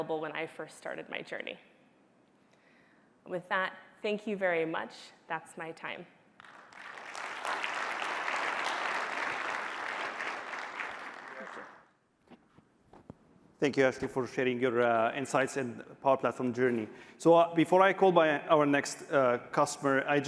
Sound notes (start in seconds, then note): 10.5 applause